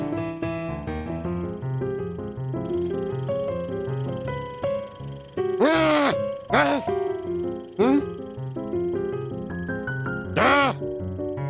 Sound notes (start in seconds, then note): 5.6 frustrated grumbles; 10.4 groan